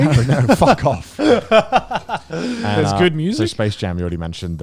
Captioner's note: laughs